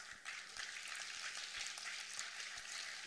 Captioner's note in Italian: applausi